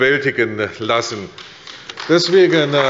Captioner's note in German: Beifall bei der CDU und dem BÜNDNIS 90/DIE GRÜNEN